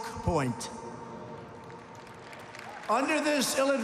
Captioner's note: applause